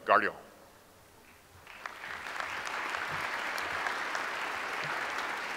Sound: audience applauds

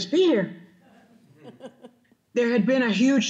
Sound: audience laughing

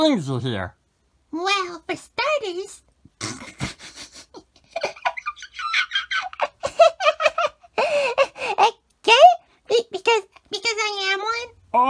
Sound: chuckles

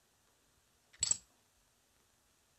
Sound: coins clink

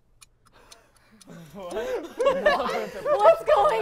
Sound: laughter

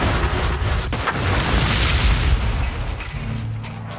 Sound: crash

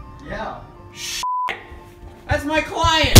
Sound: beep; loud bowling pins crashing

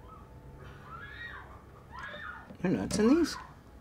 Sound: woman screams on TV

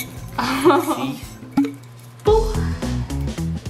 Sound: laughs; upbeat music

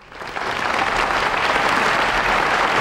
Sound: audience applauding

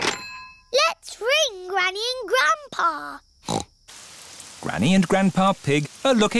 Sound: snorts

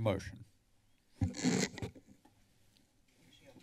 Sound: mic noise

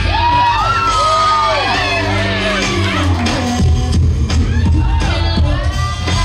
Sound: audience cheering

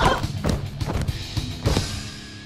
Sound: girl screams

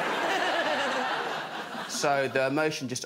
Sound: laughter

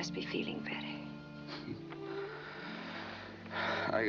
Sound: chuckles

